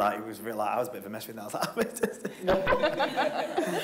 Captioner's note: everyone laughing; dramatic sobbing